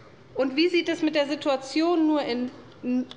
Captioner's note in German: none